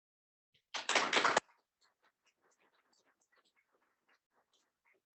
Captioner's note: audience applauding